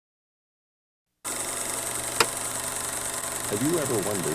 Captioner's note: projector clicking